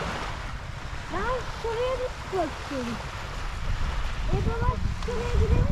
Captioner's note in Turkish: Dalga Sesi